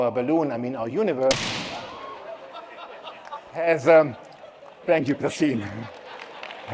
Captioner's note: bang